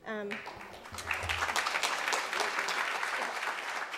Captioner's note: audience applauds